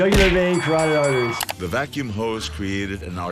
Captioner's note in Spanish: Campana sonando